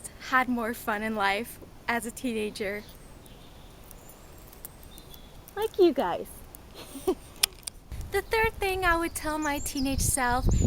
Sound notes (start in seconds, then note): 6.7 laughs